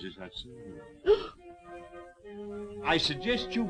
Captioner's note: gasping